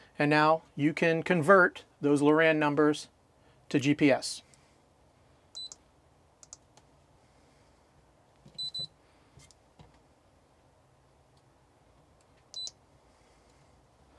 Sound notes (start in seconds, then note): 5.6 beeping